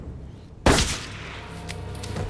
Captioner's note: gunshot blasts; tense music